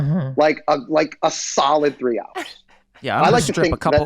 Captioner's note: laughing